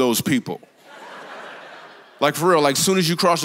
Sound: congregation laughs

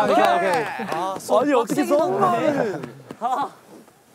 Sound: applause

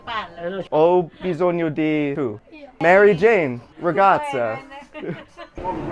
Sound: person speaking Italian; people speaking Italian; people laughing

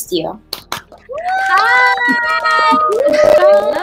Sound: cheering

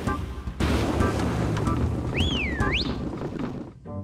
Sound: whistles

